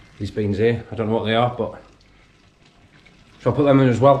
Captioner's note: none